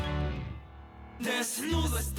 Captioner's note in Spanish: Bip